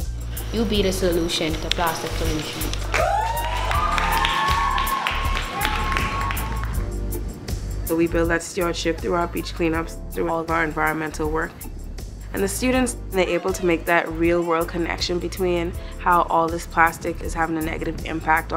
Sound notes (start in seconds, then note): 2.3 applause